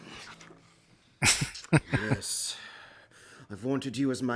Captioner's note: chuckling